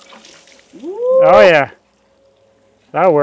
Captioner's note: cheering